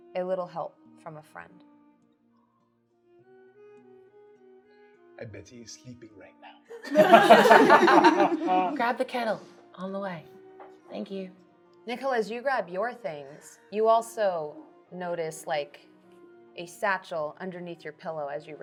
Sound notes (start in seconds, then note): 6.7 laughing